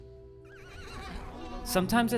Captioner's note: horse neighs